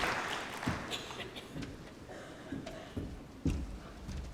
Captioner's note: applause